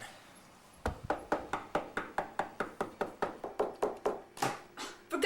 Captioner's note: door Knocks